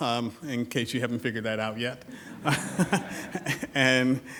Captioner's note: laughs